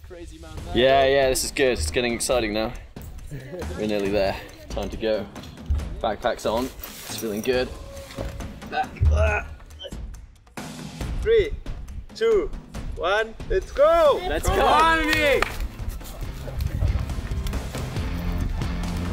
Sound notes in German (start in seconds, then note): 8.7 stöhnt; 16.3 eindringliche Musik